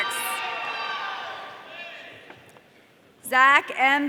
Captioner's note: audience cheering